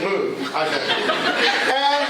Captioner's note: laughter